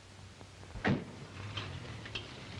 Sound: car door closes

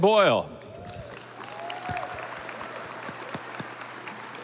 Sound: audience applauding

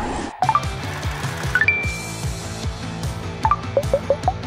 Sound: beeping sounds

